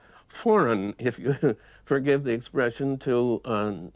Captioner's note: laughs